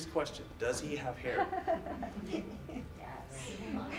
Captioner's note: audience laughs